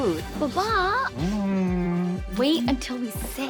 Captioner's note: Jin humming